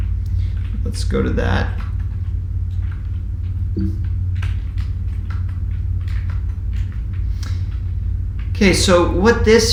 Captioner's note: keyboard typing sound